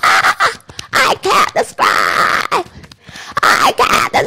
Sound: beating Chest

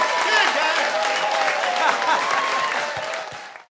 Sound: laughs

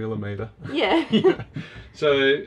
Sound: laughs

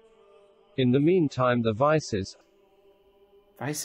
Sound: voice reads

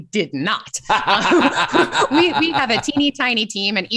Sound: laughter

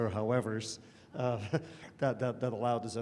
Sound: laughter

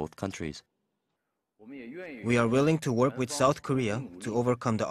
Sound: Mandarin

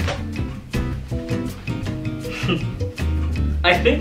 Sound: laughs

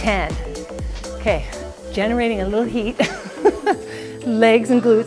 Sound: laughs

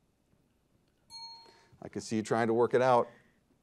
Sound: bell dings

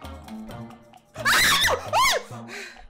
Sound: high pitched screaming

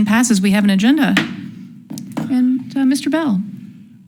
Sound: gavel thuds

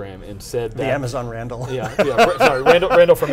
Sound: laughing

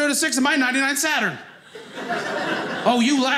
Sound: audience laughing

